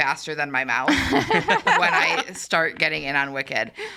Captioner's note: all laughing